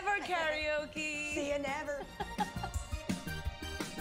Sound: laughs

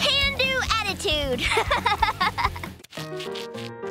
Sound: laughing

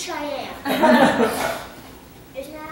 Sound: laughter

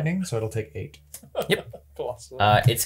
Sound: laughs

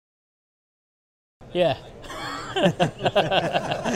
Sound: laughter

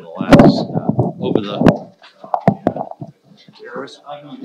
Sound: microphone rustling

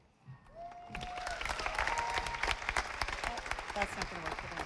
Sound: audience applauding

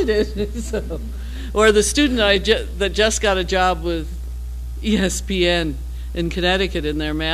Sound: laugh

